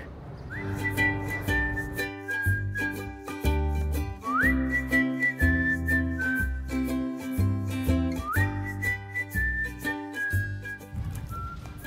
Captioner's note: whistling